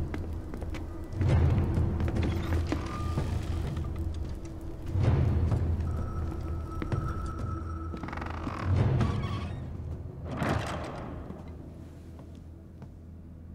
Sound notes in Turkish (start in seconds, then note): 0.0 Davul sesleri; 2.2 Kapı açılma sesi; 10.2 Kapı kapanma sesi